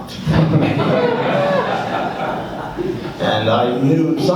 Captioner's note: laughs